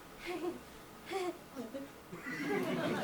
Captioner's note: Cecily gags; audience laughs